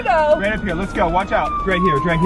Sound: siren blares

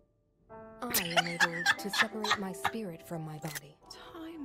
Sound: laughter

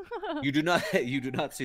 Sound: laughing

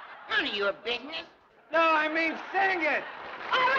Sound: applause

